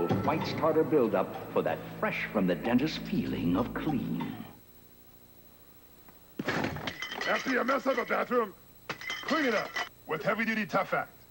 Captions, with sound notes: Fights tartar buildup for that fresh-from-the-dentist feeling of clean. [crash, tiles fall to ground] After ya mess up the bathroom, [smash, falling tiles] clean it up! With heavy-duty Tough Act.